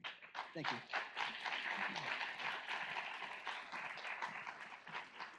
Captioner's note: audience applauds